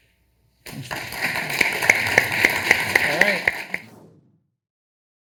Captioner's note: audience applauding